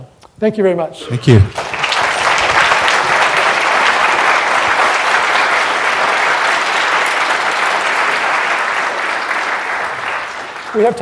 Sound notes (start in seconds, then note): 1.7 applause